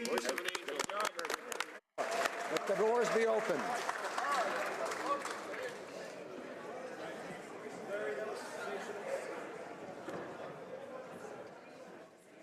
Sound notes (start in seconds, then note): 3.5 applause